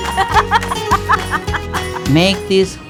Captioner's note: laughter